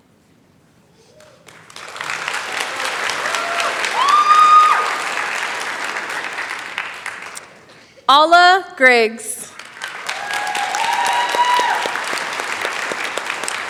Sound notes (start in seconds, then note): 1.1 applause; 9.4 applause